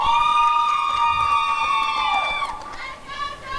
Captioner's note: applause and cheering